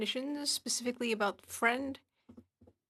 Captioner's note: speaking French